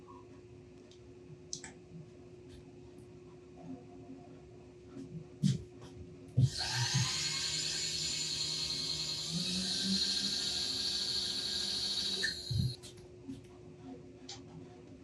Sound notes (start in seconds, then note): 6.3 mill whirring